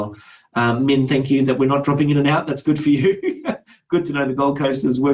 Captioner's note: laughs